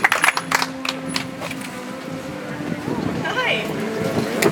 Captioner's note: audience applauds